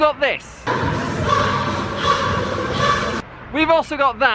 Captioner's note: people exercising and making noises with glowsticks